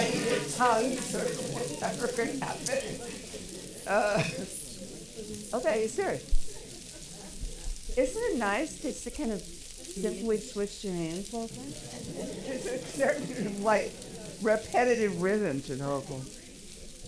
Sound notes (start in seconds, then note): 5.8 speaking softly